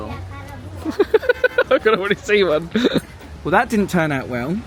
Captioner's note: laughing